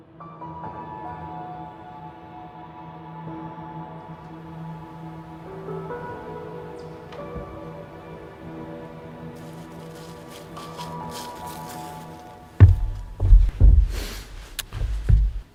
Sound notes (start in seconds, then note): 0.3 gentle music; 9.2 leaves crunching; 9.7 gentle music continues